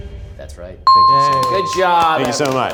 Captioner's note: bell rings